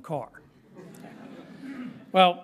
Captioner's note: light laughter